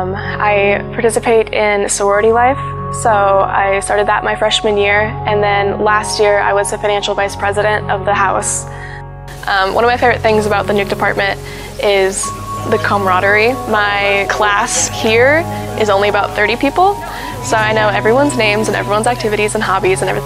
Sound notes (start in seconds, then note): 12.8 crowd chatter; 18.3 crowd chatter